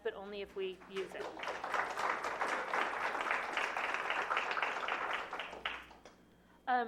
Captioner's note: applause